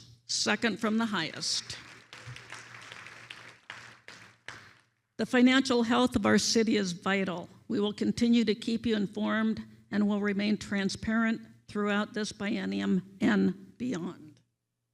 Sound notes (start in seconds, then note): 1.5 attendees applauding